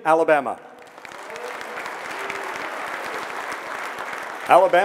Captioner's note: audience clapping